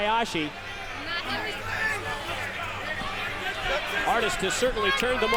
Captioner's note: crowd chatter